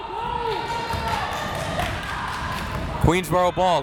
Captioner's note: crowd members shouting